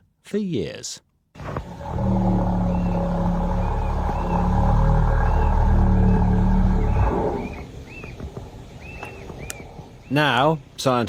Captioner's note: whale roaring